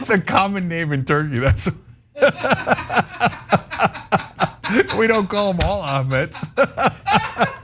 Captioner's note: laugh; laugh